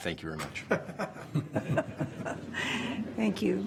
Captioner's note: laughter